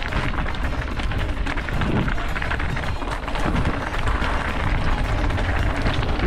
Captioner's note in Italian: Applauso